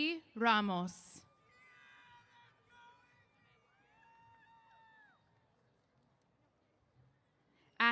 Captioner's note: cheers